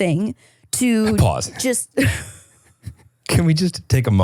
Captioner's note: laughing